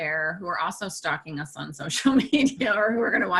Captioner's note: laughs